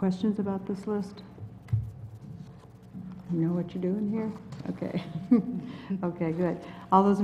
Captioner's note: laugh